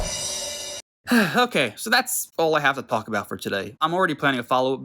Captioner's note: sighs